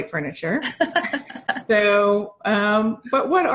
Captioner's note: chuckling